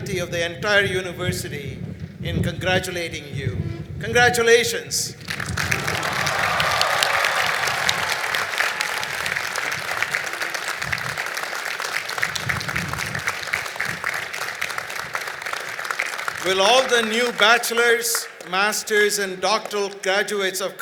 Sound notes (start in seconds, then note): 5.2 cheering and Applause